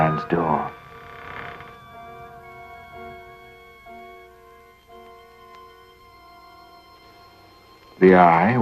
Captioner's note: door creaking